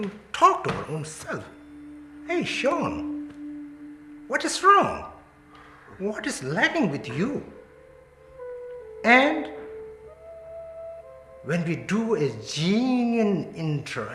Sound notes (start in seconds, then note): none